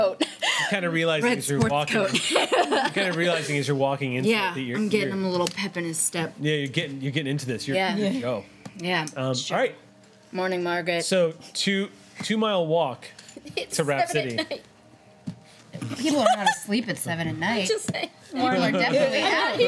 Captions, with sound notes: You're kind of realizing as you're walking. Yeah, I'm getting a little pep in his step. Yeah you're getting into this, you're good to go. Alright. Morning, Margret. So two mile walk. (laughing) It's 7:00 at night. To Raft City. People aren't asleep at 7:00 at night. I'm just saying. Morning, Margret.